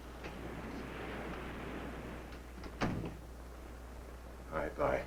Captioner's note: waves crashing nearby